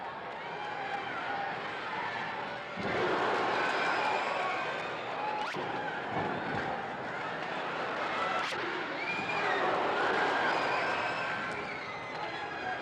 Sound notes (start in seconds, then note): 3.8 crowd cheers